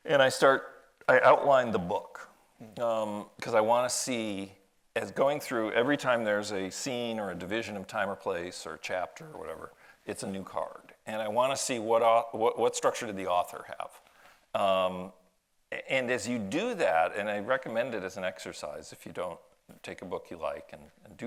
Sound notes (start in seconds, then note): none